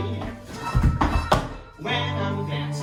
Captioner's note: tap dancing